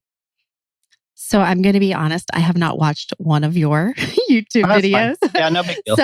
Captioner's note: laughs